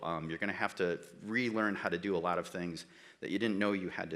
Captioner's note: none